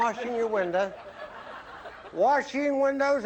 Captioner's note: laughter